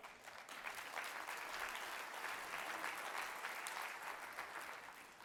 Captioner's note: audience clapping